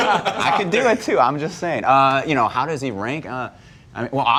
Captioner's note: laughter